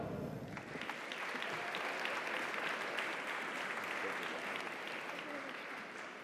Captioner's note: audience applauds; audience cheers